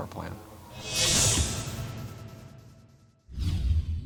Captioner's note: sound effect